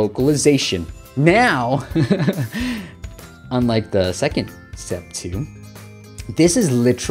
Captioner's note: laughs